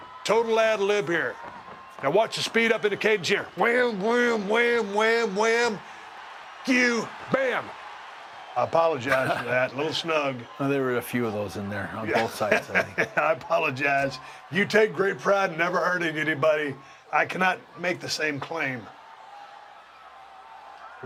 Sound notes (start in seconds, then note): 12.1 laugh